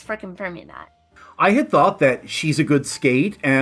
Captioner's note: none